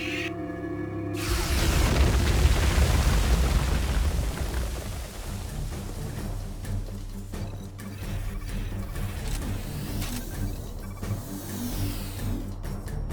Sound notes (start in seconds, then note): 0.0 dramatic music; 3.2 exploding; 4.6 dramatic music